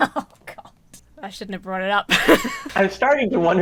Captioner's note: laughs; laughs